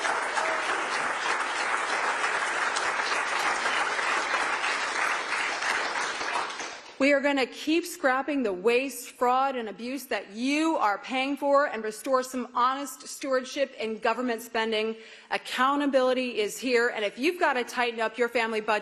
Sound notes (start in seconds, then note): 4.2 applause